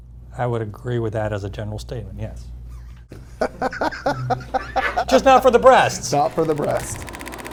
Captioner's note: laughing